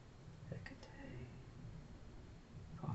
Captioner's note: speaking in foreign language